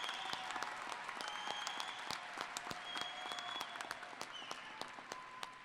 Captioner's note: applause